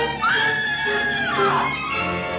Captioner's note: scream